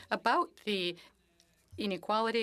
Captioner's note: speaking French